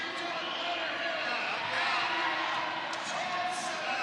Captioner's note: crowd excitement